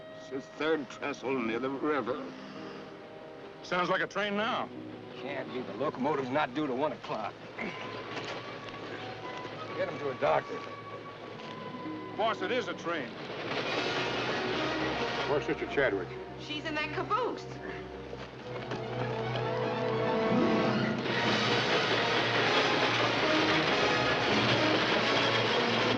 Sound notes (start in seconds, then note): 12.5 train cars rumbling; 18.6 dramatic music; 21.0 train roaring